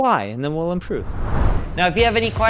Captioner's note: screen whooshes